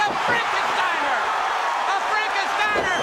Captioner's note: crowd cheering